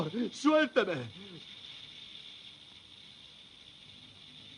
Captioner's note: sonajeros de serpientes